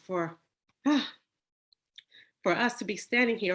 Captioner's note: sighs